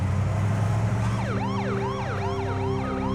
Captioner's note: siren blaring